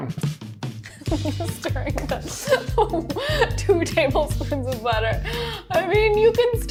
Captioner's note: laughing